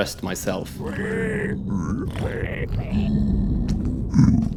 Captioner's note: piglin noises